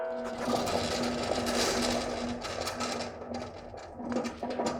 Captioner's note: mechanical sound